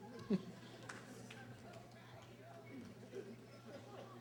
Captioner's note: laughter